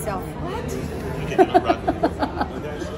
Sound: laughing

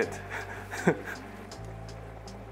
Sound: chuckles

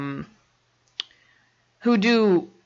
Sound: clicks tongue

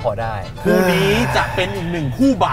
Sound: sigh

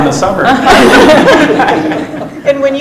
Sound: laughs

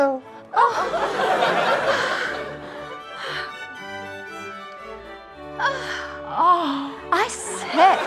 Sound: sighs of delight from women

